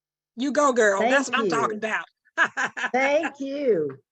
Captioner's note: chuckling